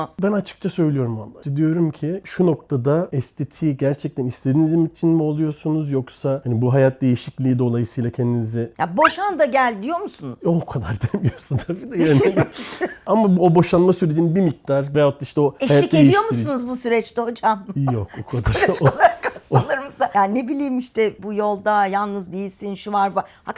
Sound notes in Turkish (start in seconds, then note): 11.0 kahkaha; 18.2 kahkaha